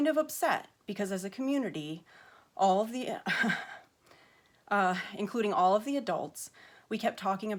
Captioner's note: stammers